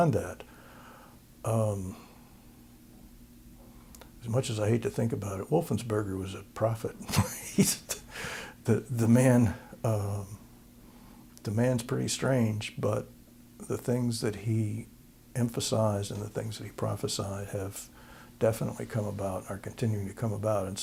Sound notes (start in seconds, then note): 7.0 laughter